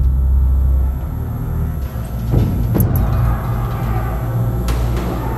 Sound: light buzzing; yelling

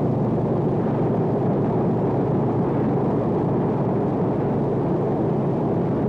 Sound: airplane propellers running

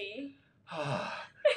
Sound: sighs

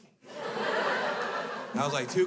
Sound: crowd laughs

